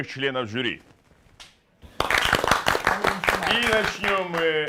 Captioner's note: applause